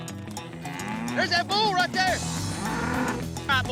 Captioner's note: bull grunting